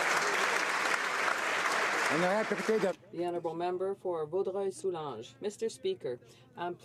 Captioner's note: applause